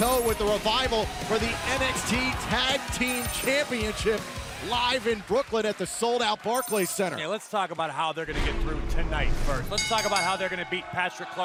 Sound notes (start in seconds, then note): 6.5 bell